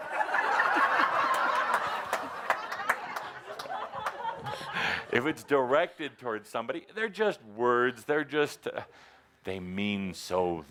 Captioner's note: laughter